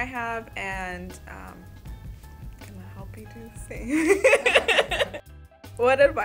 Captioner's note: laughs